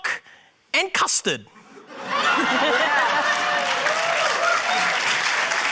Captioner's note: laughter, cheering, applause